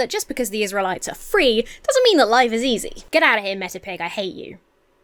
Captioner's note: none